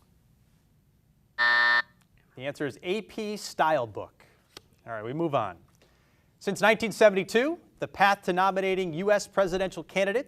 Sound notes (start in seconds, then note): 1.4 buzzer buzzes